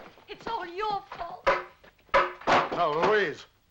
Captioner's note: stick banging